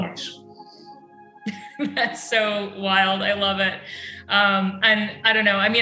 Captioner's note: chuckles